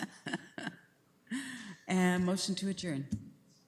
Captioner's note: laughs